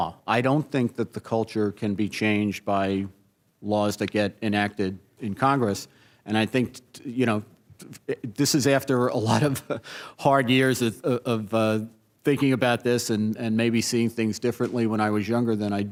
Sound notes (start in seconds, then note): 9.3 laughs